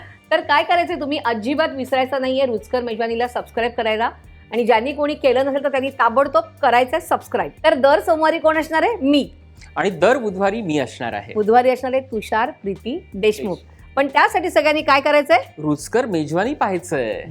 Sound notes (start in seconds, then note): none